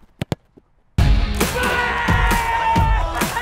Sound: yelling

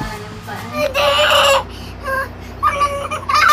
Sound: laughing out Loud

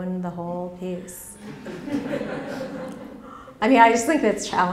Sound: laughter

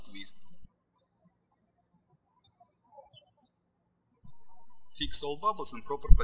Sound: birds chirping

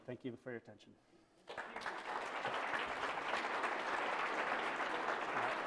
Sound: applause

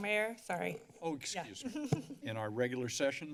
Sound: giggles

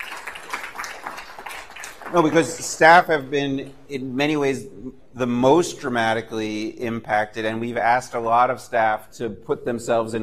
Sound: applause

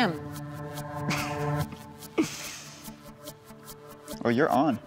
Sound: Chad chuckles

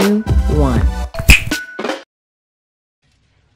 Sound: snap

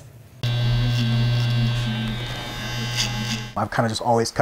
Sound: trimmer whirring

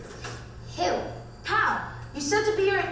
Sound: voiceover

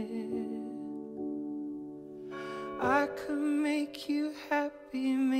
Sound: bell rings

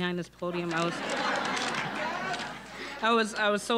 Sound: audience laughing

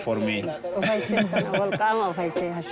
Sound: laughing; speaking foreign language

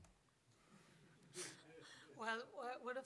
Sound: laughter

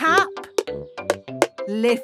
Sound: taping

